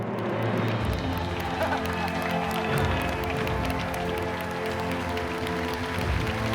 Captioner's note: cheering and applauding